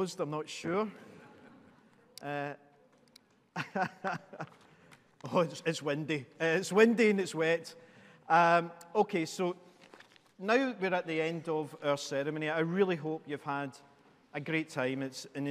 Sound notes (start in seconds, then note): 1.5 audience laughing; 3.5 laughs